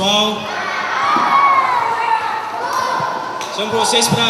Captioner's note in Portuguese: Gritos da plateia